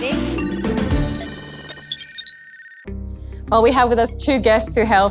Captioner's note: computer beeps and screeches